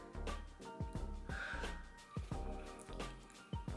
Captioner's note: sighs in korean